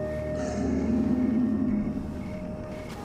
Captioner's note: roar